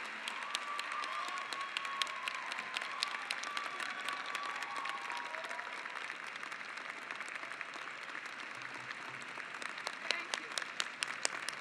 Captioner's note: cheers and clapping